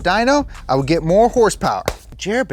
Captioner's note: claps